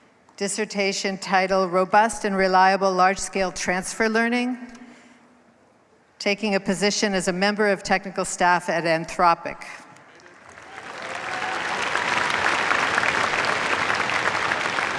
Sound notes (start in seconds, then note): 10.0 cheers, applause